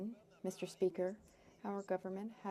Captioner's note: speaking French